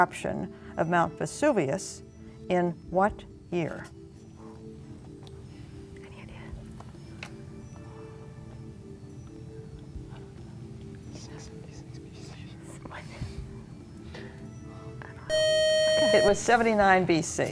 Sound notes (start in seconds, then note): 5.4 whispering; 9.5 whispering; 15.3 loud buzzer